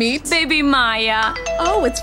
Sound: text notification sound

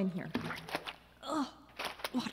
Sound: splash

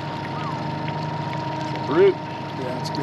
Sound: whistles

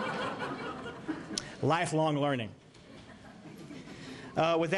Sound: laughter; laughter

